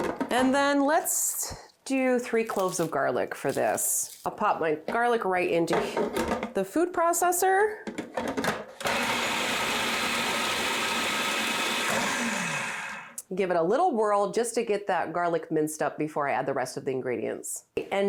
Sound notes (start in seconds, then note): 8.8 food processor whirring